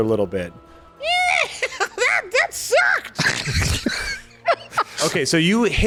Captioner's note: Kelondra cackles